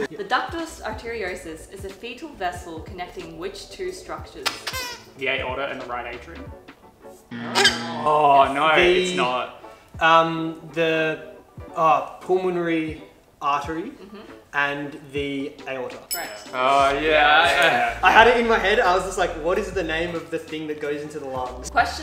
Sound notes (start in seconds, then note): 4.5 squeaks